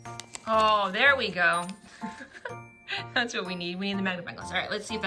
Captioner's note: laughs